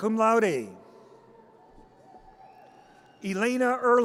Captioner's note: audience cheers